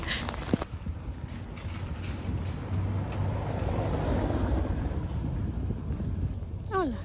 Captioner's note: rain and car